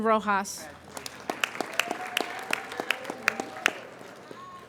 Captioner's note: applauding